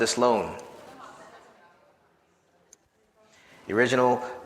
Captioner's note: audience chattering